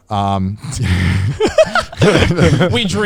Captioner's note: everyone laughs